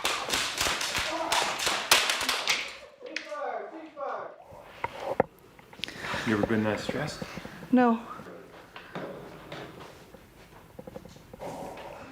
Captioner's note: shots fired; screaming